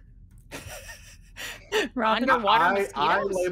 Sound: person laughing

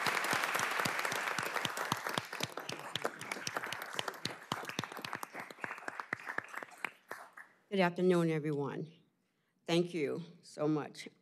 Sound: applause

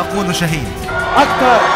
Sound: sreams!

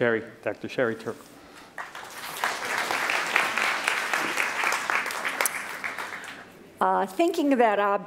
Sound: applause

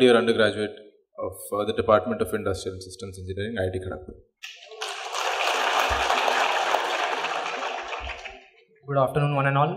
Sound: applause

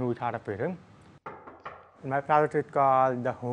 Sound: knocking

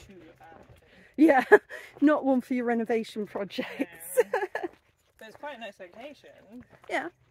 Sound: laughing

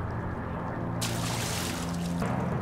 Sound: splash

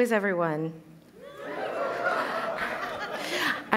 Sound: cheers

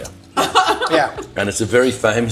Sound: laughs

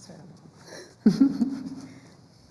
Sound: laughs

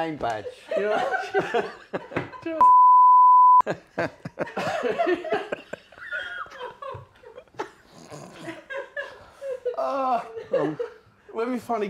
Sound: laughter

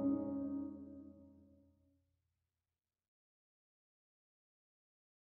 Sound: silence

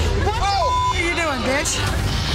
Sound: beep

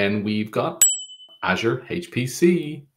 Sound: bell dings

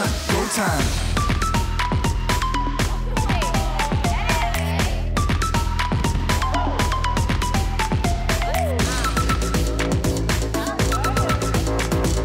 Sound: girls reacting, cheering

